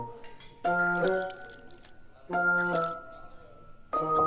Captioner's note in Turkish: Sıvı lıkırdıyor; Müşteriler şen bir orkestra müziği eşliğinde laklak ediyorlar